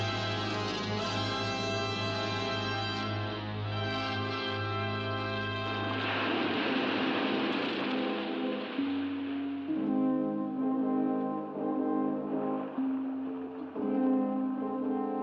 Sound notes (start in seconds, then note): 5.3 water crashing against rocks; 8.5 ominous music